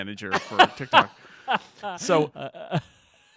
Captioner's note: laughing